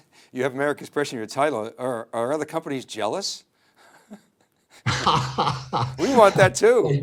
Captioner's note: laughs